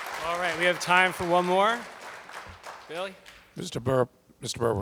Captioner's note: applause